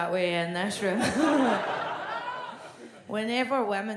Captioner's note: audience laughs